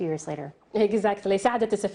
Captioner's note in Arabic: تتحدث الإنجليزية